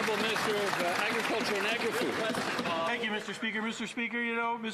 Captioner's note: some Applause